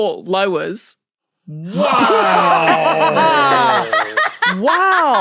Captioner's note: laugh